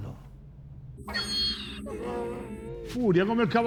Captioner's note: Donkey's bray